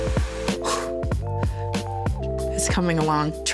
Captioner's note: hair blower whooshing; Hailee breathes heavily